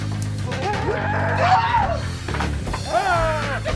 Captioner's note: The Necromaster screams